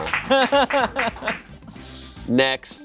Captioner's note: laughs